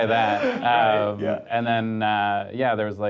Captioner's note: group laughing; laughs